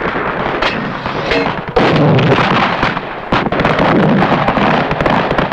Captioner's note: speaking in foreign language